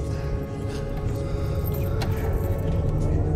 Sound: heavy breathing

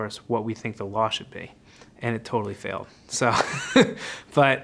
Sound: laugh

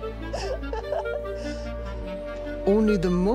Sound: laughing

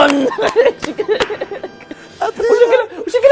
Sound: both laughing

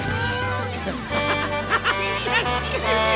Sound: honking, giggling

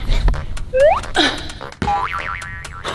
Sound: exhales; slide whistle; boing

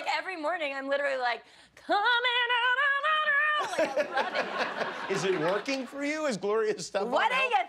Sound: laughter

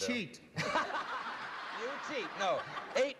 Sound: laughter

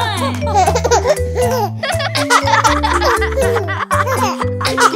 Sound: laughing

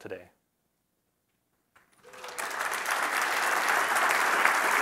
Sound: applause

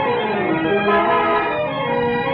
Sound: horn blares

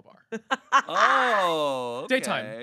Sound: laughing

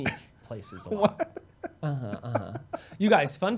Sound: laughs

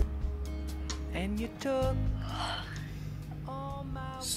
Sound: yawn

